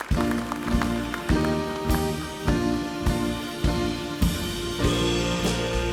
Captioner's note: applause